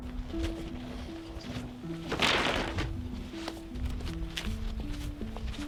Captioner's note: wooden boards dropped on ground, wiping hands